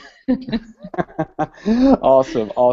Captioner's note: both Laugh